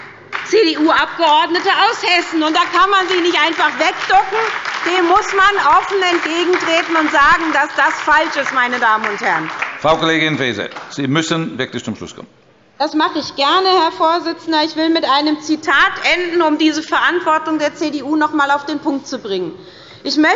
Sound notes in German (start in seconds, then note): 8.5 Beifall bei der SPD und der LINKEN